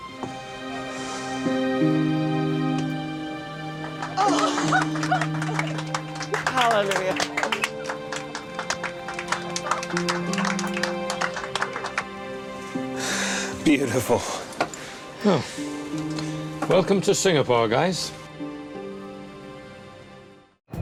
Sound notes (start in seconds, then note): 0.2 calm music; 4.2 passengers clapping; 9.3 calm music